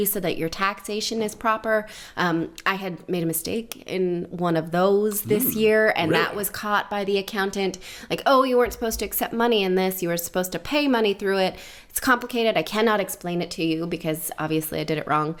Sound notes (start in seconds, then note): 5.3 sarcastically